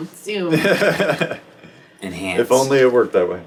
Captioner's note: laughs